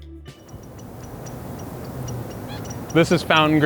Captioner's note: birds chirping